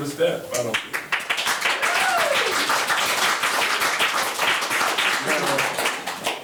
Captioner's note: members applauding